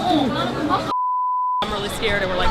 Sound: beep

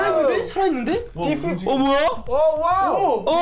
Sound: speaking in Korean

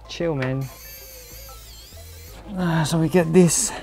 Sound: expensive screwdriver sounds again

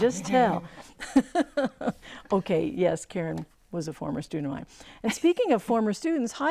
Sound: laughing

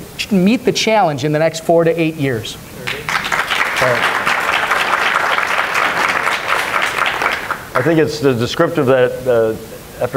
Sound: applause

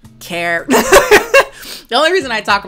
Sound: laughs

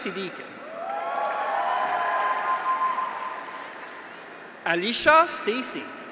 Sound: graduates cheer; audience applauds

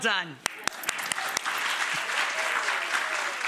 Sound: applause

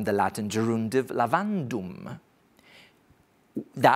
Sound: speaks foreign language

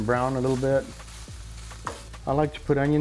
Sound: pan sizzling

